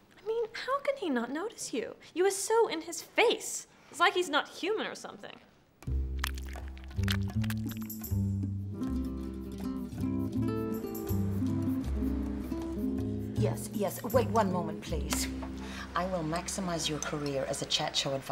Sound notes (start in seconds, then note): 6.0 tongue smacking wetly